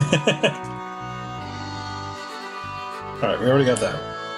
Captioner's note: laughs